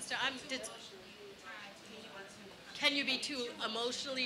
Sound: audience chattering

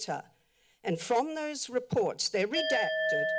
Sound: timer bell rings

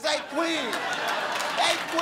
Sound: crowd laughing

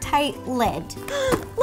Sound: gasp

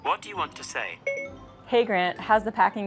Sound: beep beep

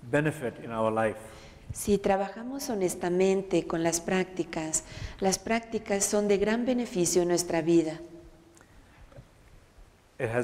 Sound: Spanish

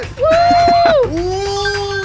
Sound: laughing

